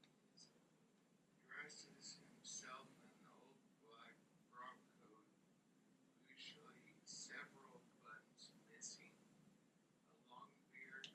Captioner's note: recording playing